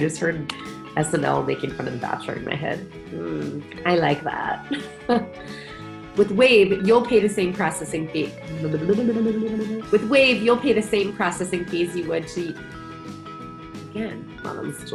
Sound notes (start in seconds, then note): 4.8 laughs